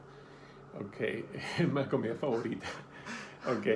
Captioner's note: laughing